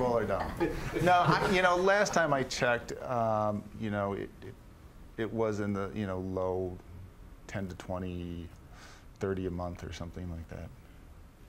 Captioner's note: laughter